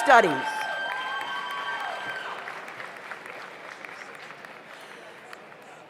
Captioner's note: audience cheers; audience applauds